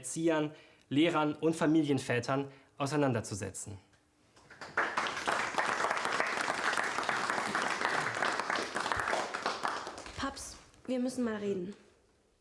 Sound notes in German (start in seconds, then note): 4.4 Beifall